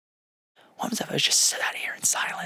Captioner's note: murmurs